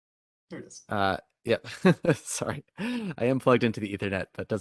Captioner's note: laughing